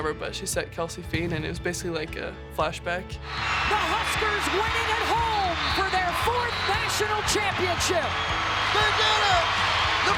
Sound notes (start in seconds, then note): 3.2 crowd cheers